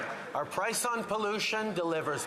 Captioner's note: some Applause